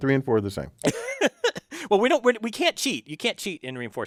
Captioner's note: laugh